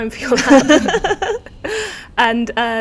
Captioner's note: laughing